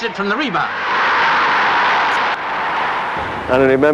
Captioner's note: crowd roaring